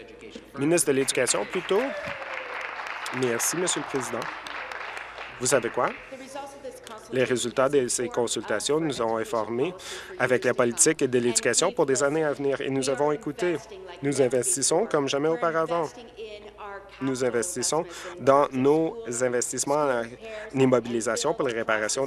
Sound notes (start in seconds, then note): 0.0 applause; 5.4 applause